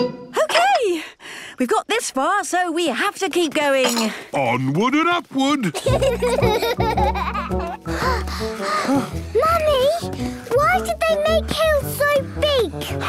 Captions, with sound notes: - Okay! We've got this far, so we have to keep going! - Onward and upward! (children giggling) (panting) - Mummy! Why did they make hills so big?